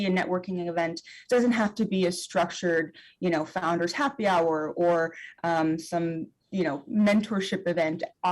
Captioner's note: none